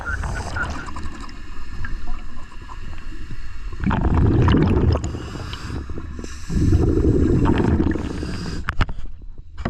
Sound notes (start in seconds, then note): 0.0 audible breathing; 4.7 water rushing